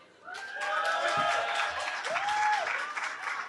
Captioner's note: cheering